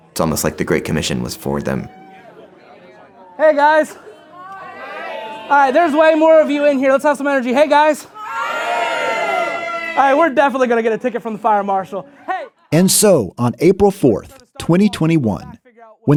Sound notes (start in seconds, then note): 1.9 group chattering excitedly; 9.7 croup cheering